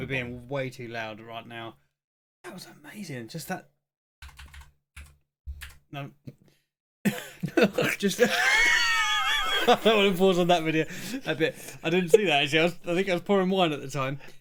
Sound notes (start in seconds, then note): 7.1 laughing